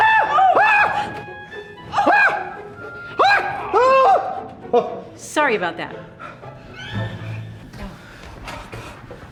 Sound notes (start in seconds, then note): 3.1 Dell shrieking